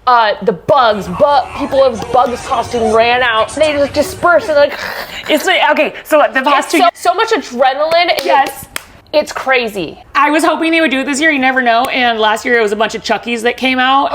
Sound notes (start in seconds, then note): 0.0 laughs; 4.5 imitates bugs growling